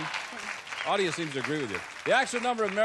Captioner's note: applause